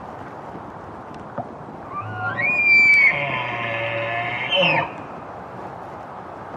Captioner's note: bull Elk Bugle